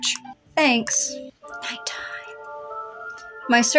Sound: whispering

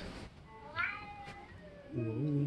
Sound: meows in Japanese

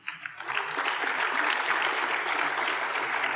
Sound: applause

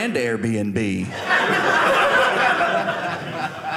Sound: audience laughing

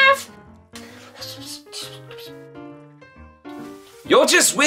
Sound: whispers

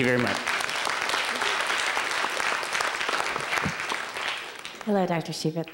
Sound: applause

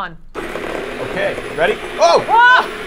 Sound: ice cream maker whirring

